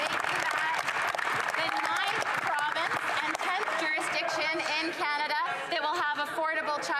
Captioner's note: some Applause